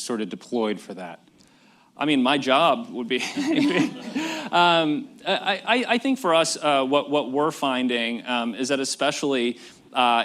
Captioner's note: laughter